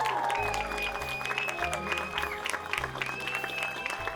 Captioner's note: cheering